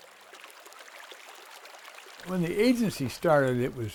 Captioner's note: running water